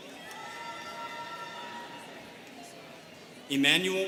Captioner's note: students cheering